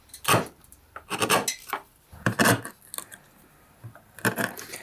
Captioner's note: tools scrape and bang